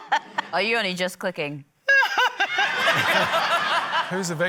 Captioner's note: laughter